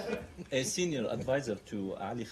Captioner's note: laughter